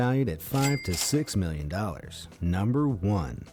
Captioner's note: cash register ringing